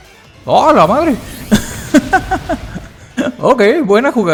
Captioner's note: big laugh